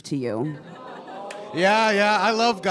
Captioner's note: audience groans